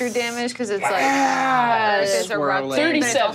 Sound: murmurs

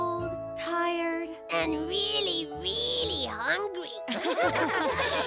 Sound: laughing

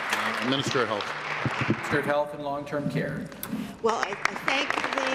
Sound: applause

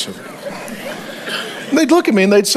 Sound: congregation laughs

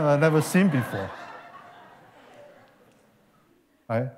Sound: laughter

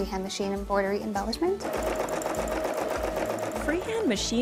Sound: sewing machine whirring

